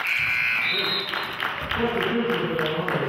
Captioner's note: cheering and clapping; buzzer honks